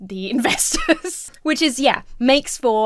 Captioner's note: laughs